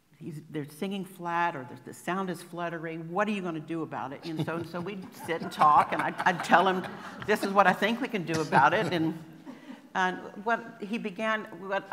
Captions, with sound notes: He's - they're singing flat, or there's - the sound is fluttery "What are you gonna do about it?" And so - so we'd sit and talk [laughter] and I'd - I'd tell him, "This is what I think we can do about it." and - and - what he began - what I -